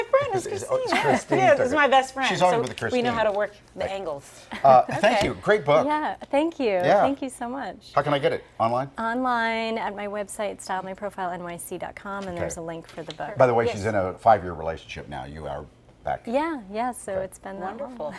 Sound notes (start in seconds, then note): 0.8 laughter